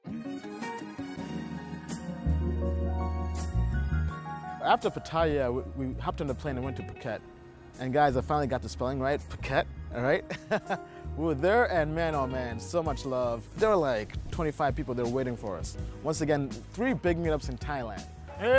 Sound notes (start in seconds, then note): 0.2 relaxing R&B music; 10.2 laughs